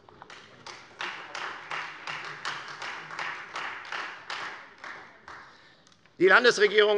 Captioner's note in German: Beifall